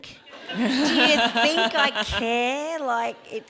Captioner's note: audience laughs